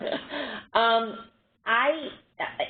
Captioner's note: laughter